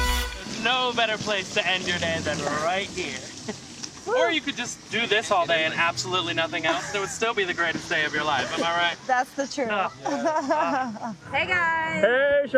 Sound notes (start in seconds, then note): 3.7 water splashing; 9.6 laugh